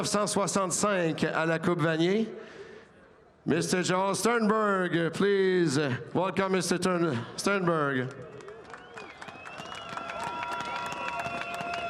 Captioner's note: speaking French